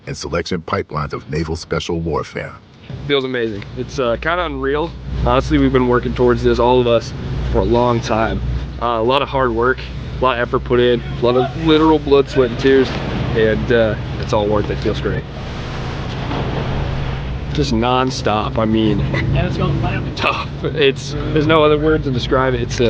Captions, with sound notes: and selection pipelines of Naval Special Warfare. - Feels amazing, it's kind of unreal, honestly. We've been working towards this, all of us, for a long time. A lot of hard work, a lot of effort put in. A lot of literal blood, sweat, and tears. And it's all worth it, feels great. (exciting music continues) (water splashing) Just nonstop. I mean, tough, there's no other word to describe it.